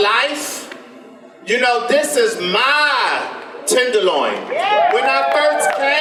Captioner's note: audience applause